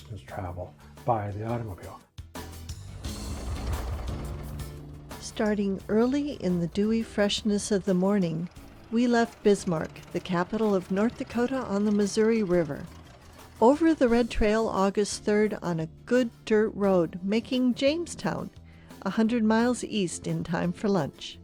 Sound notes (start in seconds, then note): 2.5 engine starts & rumbles